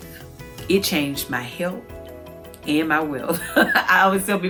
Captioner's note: laughs